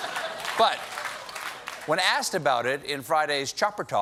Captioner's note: laughter